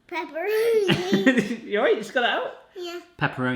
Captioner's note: laughs